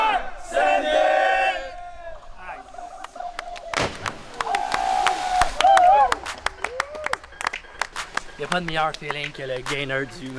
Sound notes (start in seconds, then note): 4.3 shouts and applause